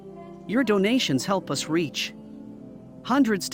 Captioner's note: none